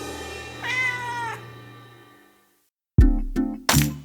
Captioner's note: cat meowing; light rhythmic music